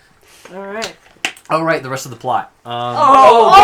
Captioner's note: closes water bottle